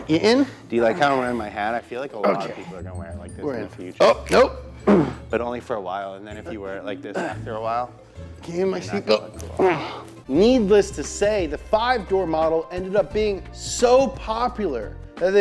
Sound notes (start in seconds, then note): 0.0 groans; 9.5 grunts